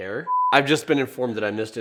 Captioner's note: static beeping